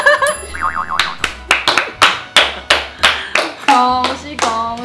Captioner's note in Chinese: 拍手